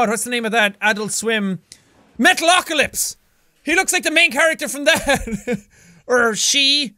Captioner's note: chuckles